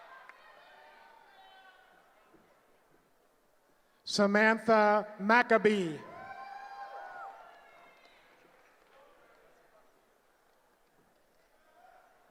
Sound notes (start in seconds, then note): 6.0 cheering